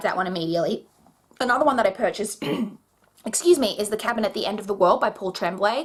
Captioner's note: clears throat